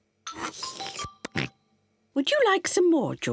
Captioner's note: slurps